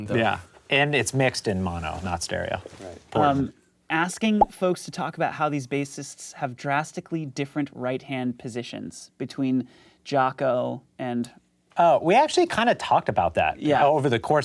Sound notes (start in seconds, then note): none